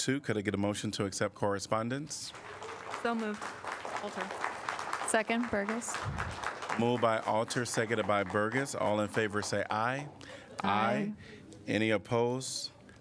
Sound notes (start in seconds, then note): 2.4 applause